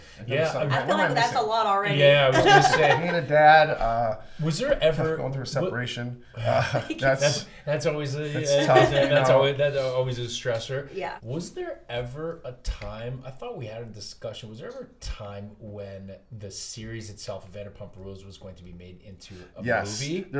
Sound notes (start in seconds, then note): 2.3 laughs; 6.8 laughs